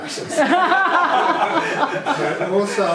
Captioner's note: group laughing